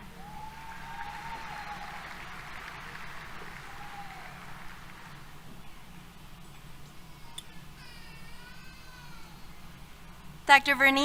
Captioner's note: applause, Cheers